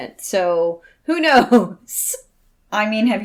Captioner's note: laughs